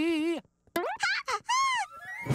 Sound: squealing

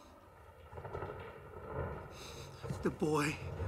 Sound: thunder rolling

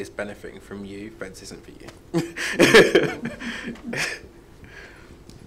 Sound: laughs

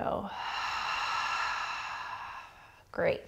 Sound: heavy breathing

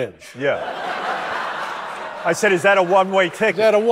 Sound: audience laughing

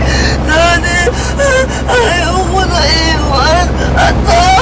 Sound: whimpering

